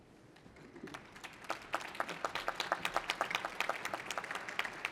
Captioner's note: applause